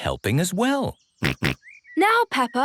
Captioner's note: snorts